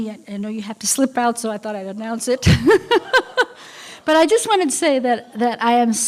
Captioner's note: laughter